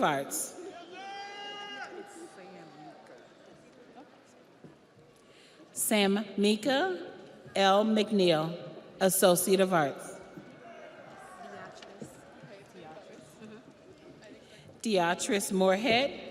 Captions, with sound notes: Daly Clyde Comer, Associate of Arts. (audience applauds) (audience cheers) Sam Mika L. McNeil, Associate of Arts.